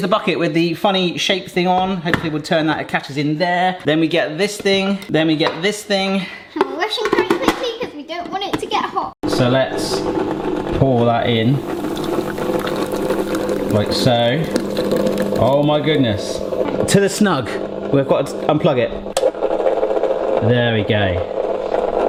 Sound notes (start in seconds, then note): 11.3 ice cream maker whirring; 18.7 switch clicking